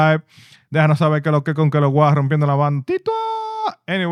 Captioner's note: speaking In Foreign Language